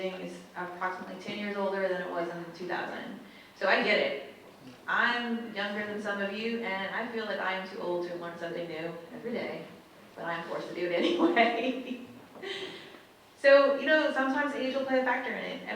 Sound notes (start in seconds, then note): 11.0 laughs